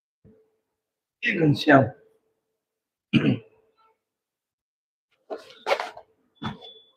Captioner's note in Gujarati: ગળું સાફ કરે છે